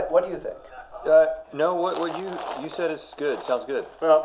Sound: paper crumbling

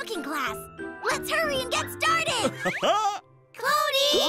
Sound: chuckles

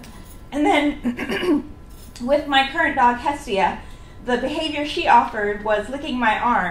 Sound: clears throat

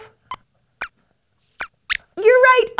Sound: squeaks squeaks

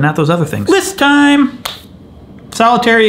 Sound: claps hands

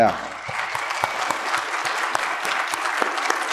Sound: applause

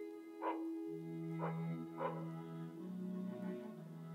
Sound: dog barking

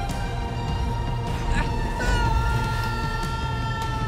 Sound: grunts, screams

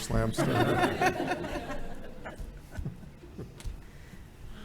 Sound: everyone laughing

